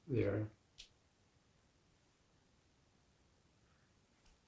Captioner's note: pauses 11 seconds